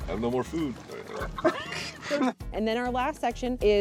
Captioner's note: light laughter